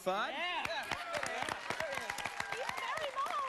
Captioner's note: family cheers